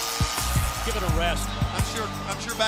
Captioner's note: crowd cheering